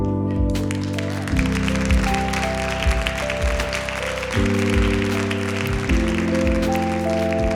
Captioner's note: applause